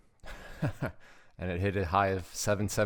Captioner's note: laughing